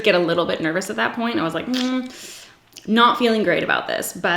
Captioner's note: sucks teeth